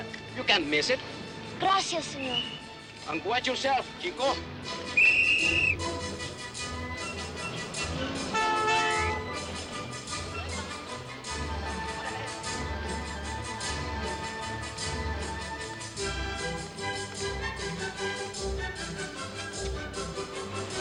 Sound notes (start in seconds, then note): 4.8 whistle blows; 8.3 horn honks